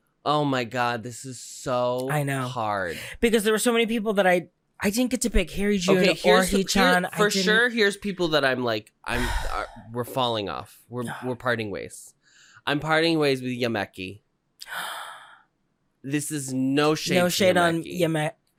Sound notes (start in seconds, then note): 9.1 deep sigh; 14.6 gasp